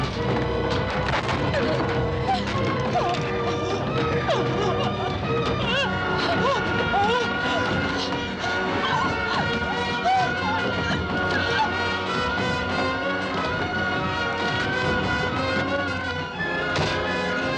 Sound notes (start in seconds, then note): 1.4 whimpering